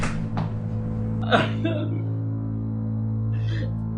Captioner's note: booming; crying